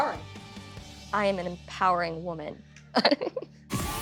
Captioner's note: chuckles; upbeat dance music playing